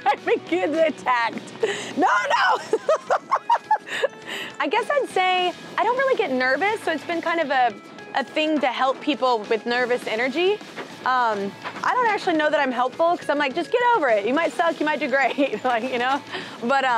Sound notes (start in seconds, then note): 1.6 laughing